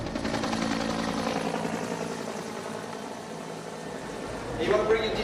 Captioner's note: sound of helicopter rotors